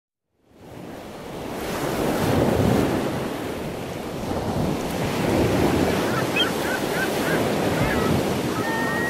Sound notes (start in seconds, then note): 0.6 waves crashing; 5.6 seagulls cawing